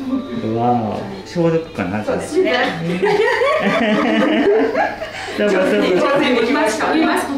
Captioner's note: laughter